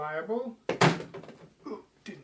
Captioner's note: crash; throws Phone